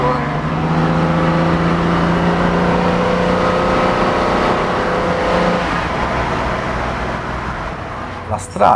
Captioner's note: engine sound